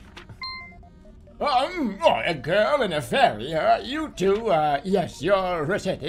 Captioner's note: old man voice